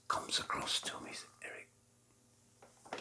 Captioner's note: whispering